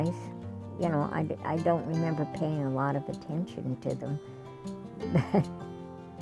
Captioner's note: laughs